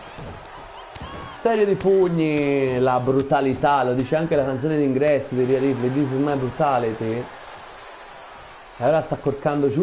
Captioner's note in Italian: Applauso